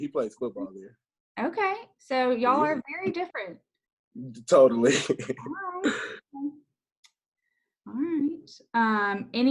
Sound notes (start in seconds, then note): 5.1 laughs